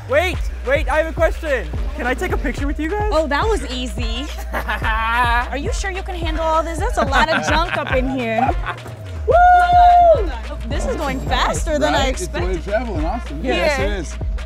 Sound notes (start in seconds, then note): 4.3 laughs; 6.9 laughs